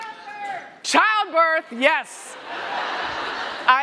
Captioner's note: laughter